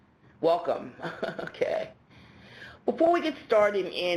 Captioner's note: laughs